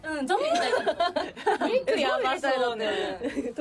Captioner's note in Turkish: kahkaha